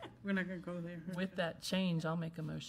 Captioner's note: laughing